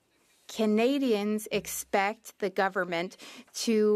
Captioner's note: speaking French